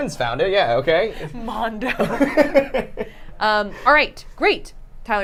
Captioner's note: laughs